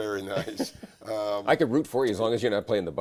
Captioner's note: laughs